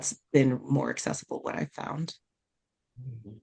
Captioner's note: hums in agreement